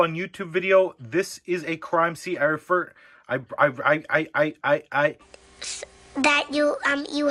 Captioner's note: stammers